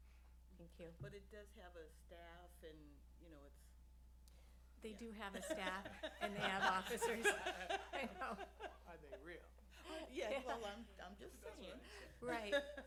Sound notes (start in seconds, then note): 5.3 laughter; 11.3 laughter